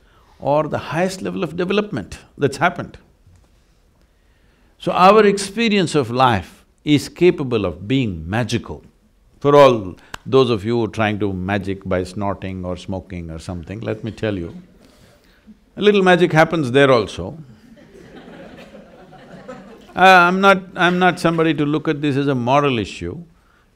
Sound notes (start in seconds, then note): 17.6 laughter